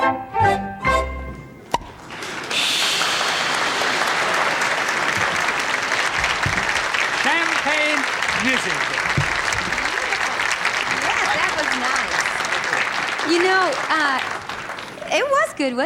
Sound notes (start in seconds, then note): 3.8 applause